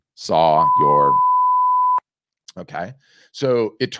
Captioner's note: loud beeping